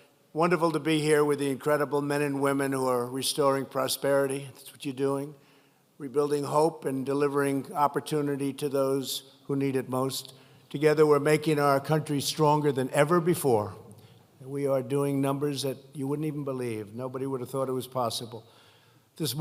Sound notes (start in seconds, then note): none